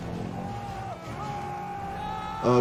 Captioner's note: passenger screaming